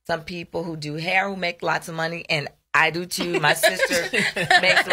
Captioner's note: laughs